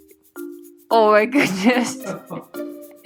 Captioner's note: laughing in the background